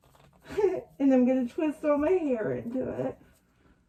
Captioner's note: laughs